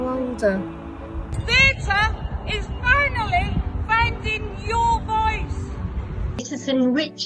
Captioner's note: shouting